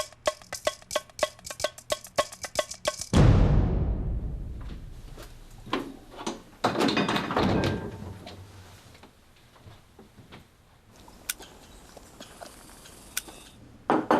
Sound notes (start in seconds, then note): 3.1 booming sound effect